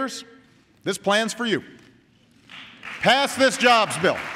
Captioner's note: applause